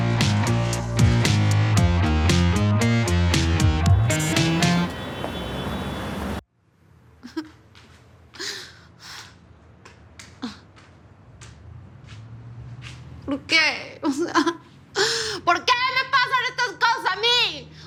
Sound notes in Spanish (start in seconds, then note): 7.0 Exclamaciones